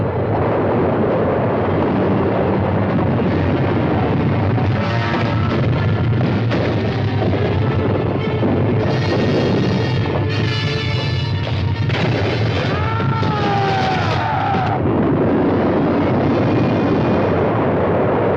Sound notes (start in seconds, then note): 0.2 rocks rumbling; 12.7 old man screams; 15.0 rocks rumbling